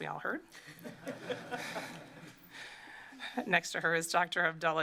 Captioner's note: laughter